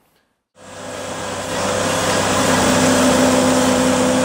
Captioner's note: engine revving